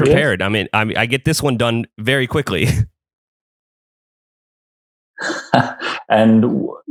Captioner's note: laughs